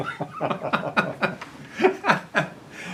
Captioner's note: laughter